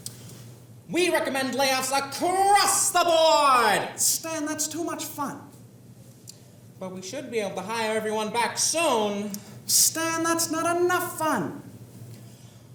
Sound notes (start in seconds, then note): 0.8 excitedly